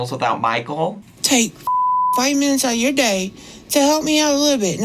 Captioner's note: beep